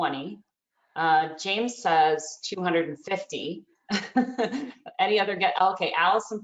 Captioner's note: laughs